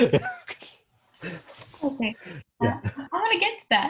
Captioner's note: both laughing